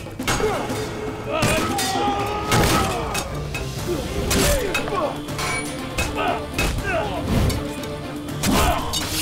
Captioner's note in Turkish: Dövüşme sesleri; Dövüşme sesleri